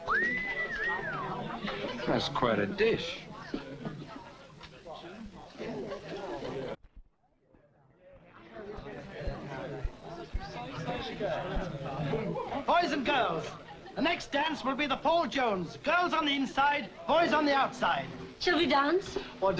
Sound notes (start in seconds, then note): 0.0 whistles; 4.4 crowd chattering